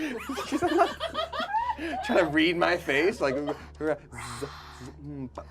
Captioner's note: laughs; stammers; group laughs